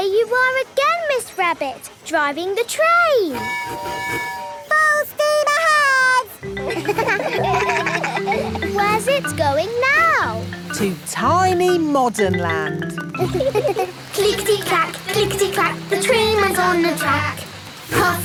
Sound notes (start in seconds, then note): 3.3 tooting; 6.4 kids laugh; 13.1 laughing